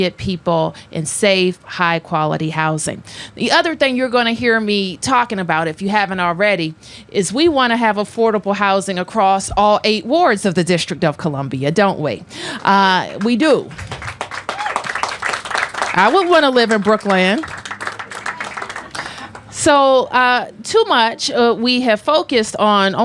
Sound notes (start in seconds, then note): 12.9 applause